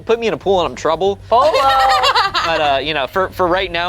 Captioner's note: group laughs